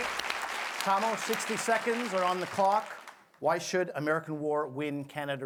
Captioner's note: applause